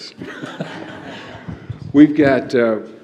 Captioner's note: laughter